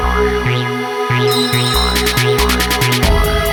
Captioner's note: bell rings